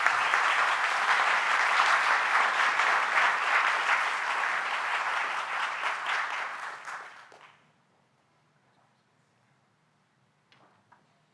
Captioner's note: applause